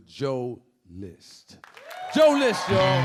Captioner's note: audience clapping